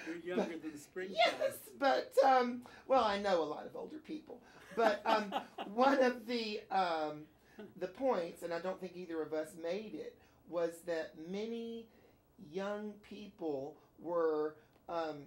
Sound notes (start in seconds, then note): 4.6 Kramer laughs